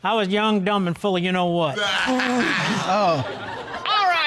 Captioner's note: all laughing